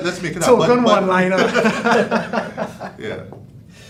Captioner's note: all laughing